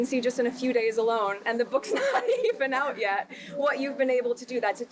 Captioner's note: laughing